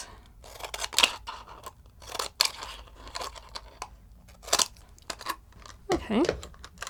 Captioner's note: scissors crunching through plastic bottle